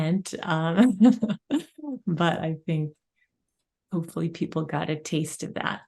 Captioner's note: chuckles